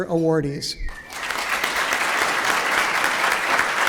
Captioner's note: applause